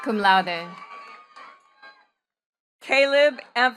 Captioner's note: attendees cheering and clapping